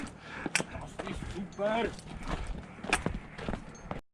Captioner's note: in German